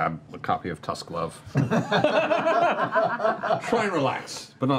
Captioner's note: laughter